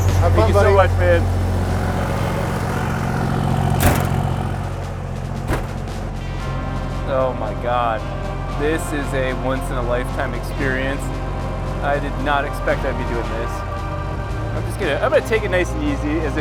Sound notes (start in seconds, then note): 0.0 truck engine roaring; 1.9 truck engine roaring; 3.7 door banging